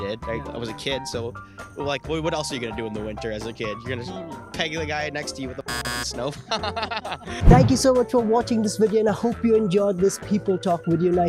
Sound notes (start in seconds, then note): 5.7 beep; 6.4 laughs